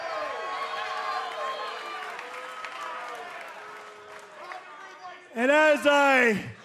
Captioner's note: cheers and applause